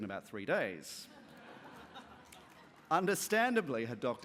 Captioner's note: laughter